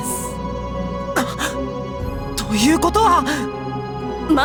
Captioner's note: gasp